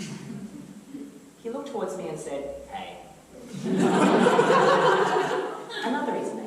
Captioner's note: audience laughter